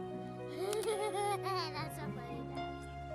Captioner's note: laughs